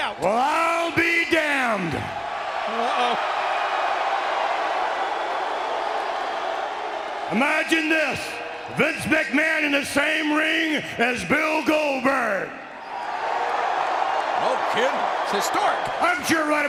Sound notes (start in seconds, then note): 13.2 audience cheering